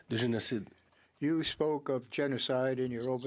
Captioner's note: speaking French